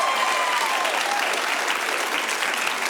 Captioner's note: applause